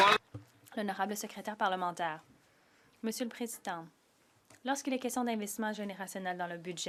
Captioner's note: some Applause